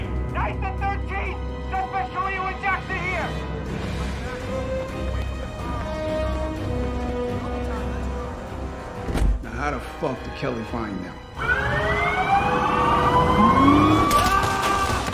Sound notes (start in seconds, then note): 3.5 chattering; 11.4 siren wailing; 14.0 yells